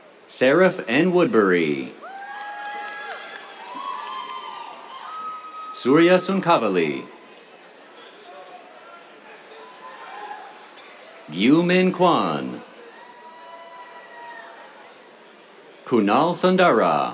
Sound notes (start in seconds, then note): 2.0 cheers, applause; 6.9 cheers; 11.8 cheers